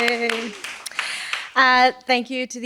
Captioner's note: applause